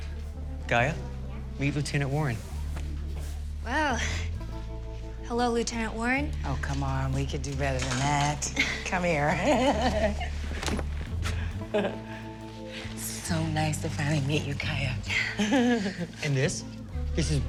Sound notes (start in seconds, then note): 9.2 chuckling